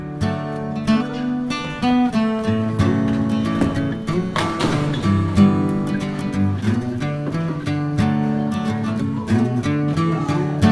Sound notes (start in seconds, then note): 0.2 playful music; 4.6 bowling pins crashing; 6.8 playful music